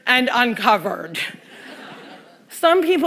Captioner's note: laughter